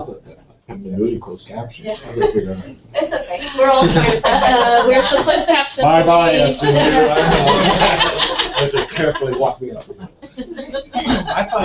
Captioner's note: laughter